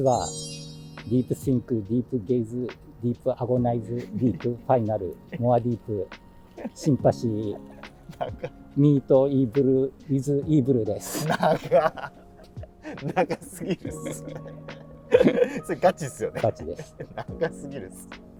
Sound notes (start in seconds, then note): 13.8 laughing